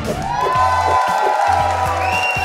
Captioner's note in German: Jubel, Applaus